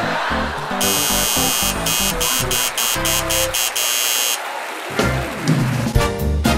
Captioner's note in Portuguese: campainha e aplausos